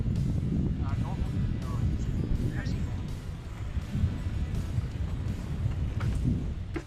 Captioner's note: wind whoosing drowns out speaker